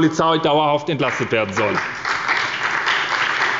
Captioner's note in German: Beifall bei der SPD